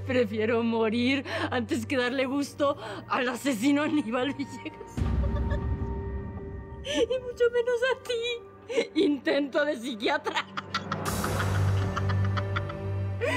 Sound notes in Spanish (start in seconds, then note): 10.2 Risas